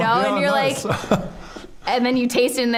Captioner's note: chuckling